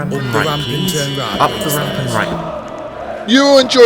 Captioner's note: fans chanting